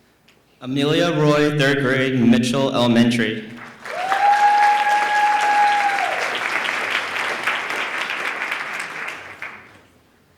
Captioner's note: applause